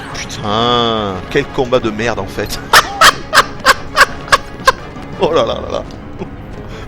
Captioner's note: laughs